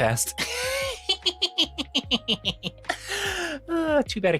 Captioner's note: laughing